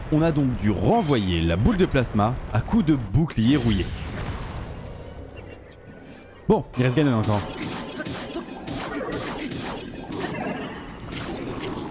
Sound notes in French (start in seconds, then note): 7.8 grognements de l'Ombre de feu